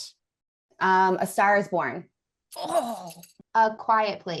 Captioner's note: groans